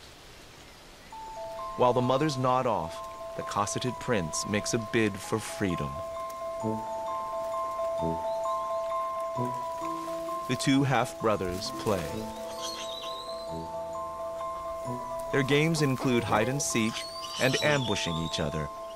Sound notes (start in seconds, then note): 12.5 chattering